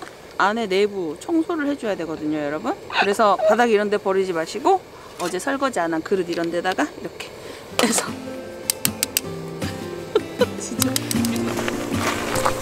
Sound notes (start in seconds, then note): 10.0 laughs